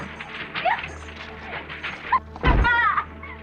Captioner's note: laughing